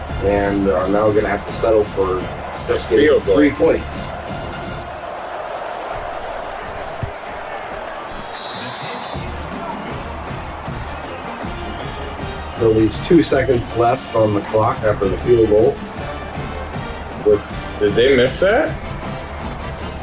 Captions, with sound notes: And now we're gonna have to settle for three points. [Crowd Noises] Till these two seconds left on the clock after the field goal. Did they miss that?